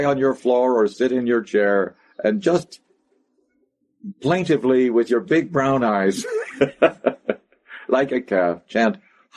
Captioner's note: laughs